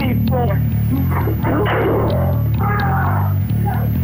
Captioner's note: gunshot